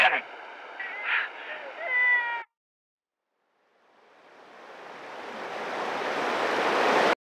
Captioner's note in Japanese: 小虎の泣き声